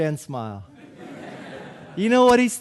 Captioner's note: audience laughing